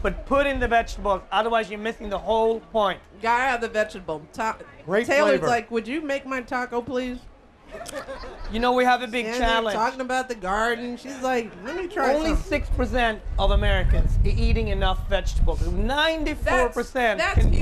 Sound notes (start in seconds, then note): 7.7 laughter